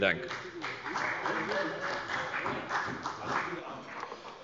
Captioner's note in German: Beifall bei Abgeordneten der FDP und der CDU